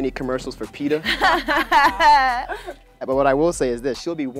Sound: women laugh

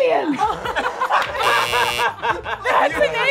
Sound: buzzer blares; group laughing

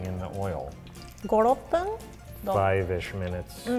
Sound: speaks in foreign language

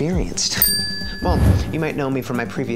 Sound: bell dinging

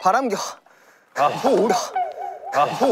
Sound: everyone sighs

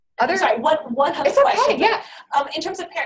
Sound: voiceover

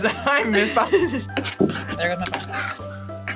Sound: phone thuds

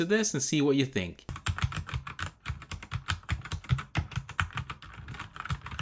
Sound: keyboard clicking

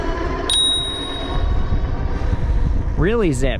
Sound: bell rings

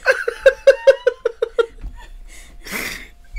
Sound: crying

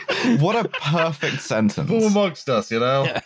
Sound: laughter

